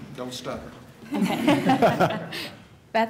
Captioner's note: laughter